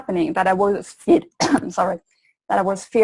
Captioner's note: coughs